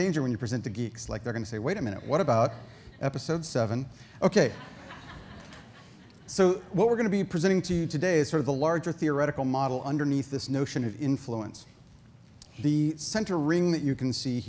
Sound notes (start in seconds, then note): 4.3 audience laughter